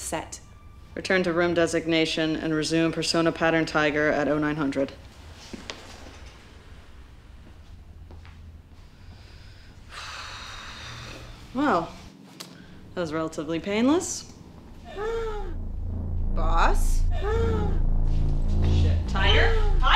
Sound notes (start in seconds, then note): 8.9 exhales